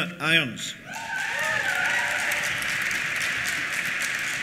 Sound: cheers; applause

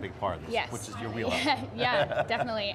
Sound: laughing

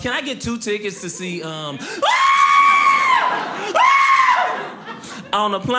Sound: screams; audience laughing

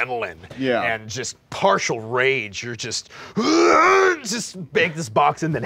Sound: grunting

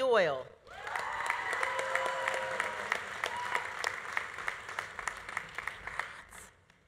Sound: audience cheering; audience applauding

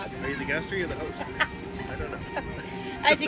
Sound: laughs

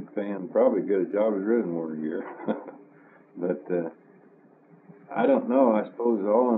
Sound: laughs

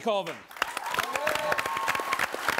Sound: audience applauds

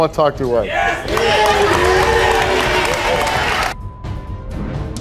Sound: audience applauding; dramatic music

